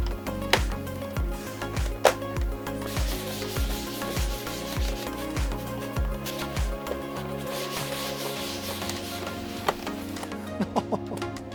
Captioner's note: upbeat music; laughing